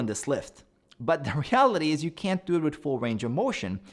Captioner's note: chuckles